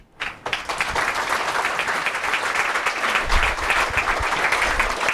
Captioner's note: audience applause